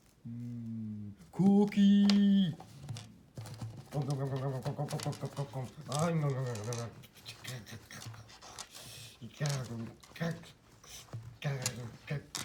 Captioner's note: eating and munching